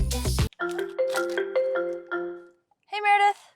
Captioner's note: cell phone ringing